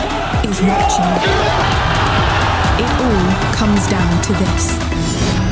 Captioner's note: all cheering